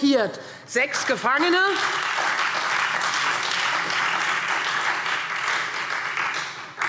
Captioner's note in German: Beifall Freie Demokraten und SPD